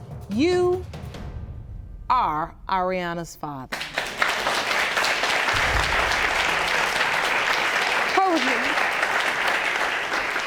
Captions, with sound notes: You are Aireanna's father. (AUDIENCE CLAPS) Told you.